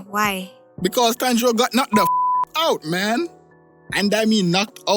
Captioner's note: beep